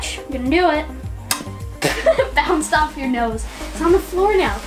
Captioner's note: laughs